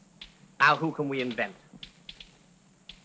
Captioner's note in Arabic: صوت نقر الآلة الكاتبة